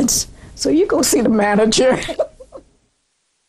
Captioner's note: laughter